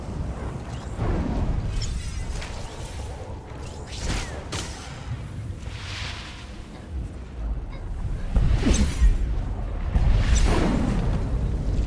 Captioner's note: explosion